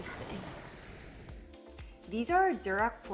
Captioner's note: waves crashing